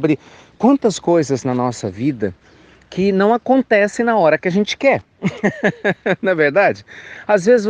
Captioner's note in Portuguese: risos